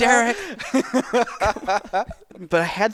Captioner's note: both laughing